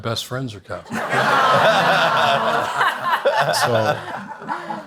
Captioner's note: audience laughs